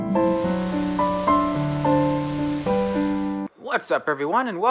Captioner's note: hissing